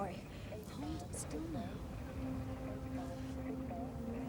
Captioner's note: EMT murmurs